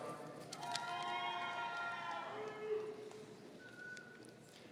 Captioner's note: audience cheering